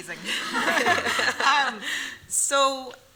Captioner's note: laughter